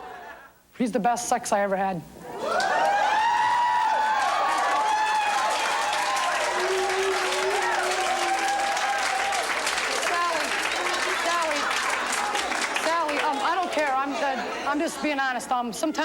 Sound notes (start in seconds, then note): 2.8 audience exclaims; 3.8 clapping